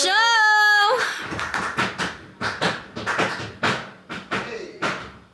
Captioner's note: actors pounding rhythmically